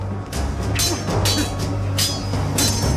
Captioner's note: grunting; suspenseful music